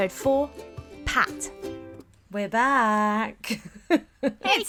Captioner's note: laughs